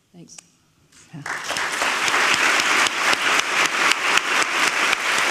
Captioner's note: audience applauds